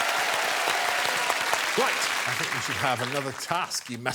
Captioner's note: applause and cheering